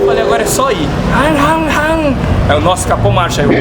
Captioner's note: weird engine noises